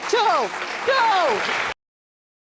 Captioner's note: audience applauding